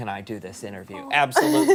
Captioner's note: laughter